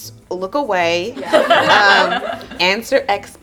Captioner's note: group laughs